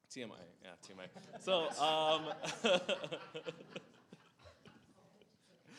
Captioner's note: laughs